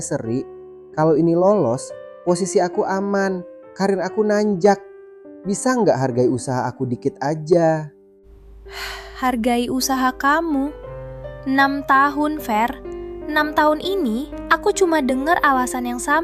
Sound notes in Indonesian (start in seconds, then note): 8.7 menghela napas; 8.9 terkesiap